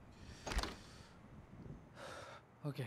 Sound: sighs deeply

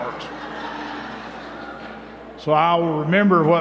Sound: laughter

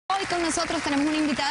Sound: aplausos

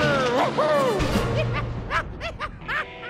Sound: laughing

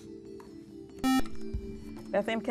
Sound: buzzer

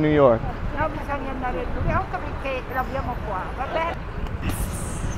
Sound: speaking Italian; cap person speaking Italian; hands clap

